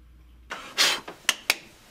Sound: blows

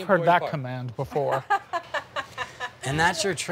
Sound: laughing

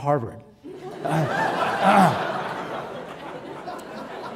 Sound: audience laughing

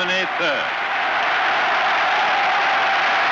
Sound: cheering continues

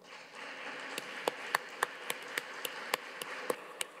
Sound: audience applauds

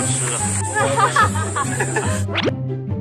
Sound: laughing

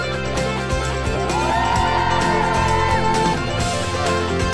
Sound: group cheering

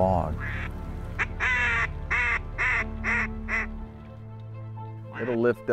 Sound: duck calls

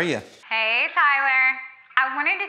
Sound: on phone

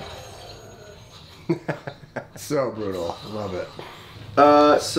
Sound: laughs

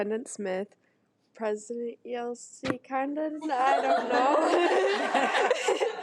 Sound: laughs

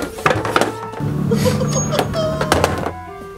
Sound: laughing

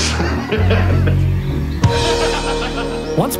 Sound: laughter

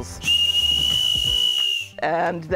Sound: whistle blowing

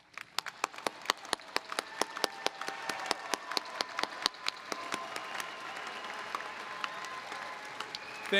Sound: applause

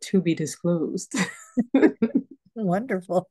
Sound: laughter

